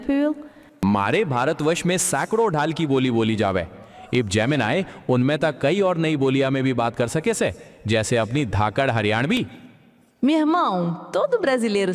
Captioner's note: speaking various languages